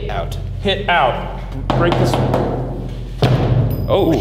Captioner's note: knocking